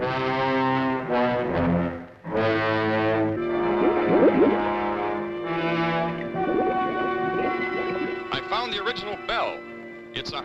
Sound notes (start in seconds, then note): 0.1 dramatic orchestral music; 3.3 bubbles gurgling